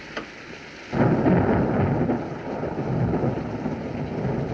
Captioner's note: thunderclap